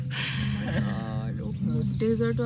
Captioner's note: laughing